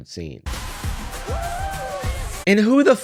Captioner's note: fruits woo- and hoo-ing